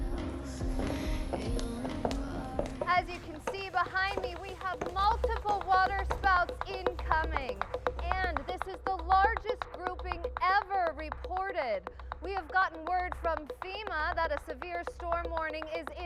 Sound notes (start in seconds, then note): 0.0 singing; 2.4 over tv